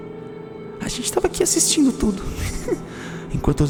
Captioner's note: giggle